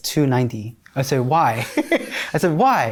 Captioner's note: laughs